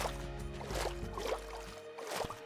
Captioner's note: water splashing